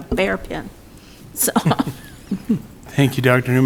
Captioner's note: members laugh